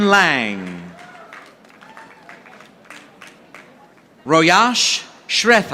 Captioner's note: audience applauding